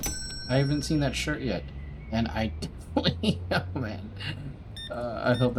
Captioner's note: laughing